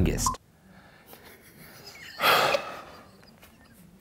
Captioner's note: laughter